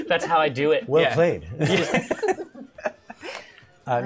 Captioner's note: laughter